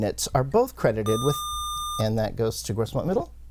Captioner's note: buzzer